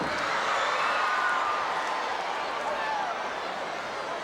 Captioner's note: audience cheering